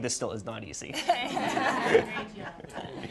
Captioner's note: laughter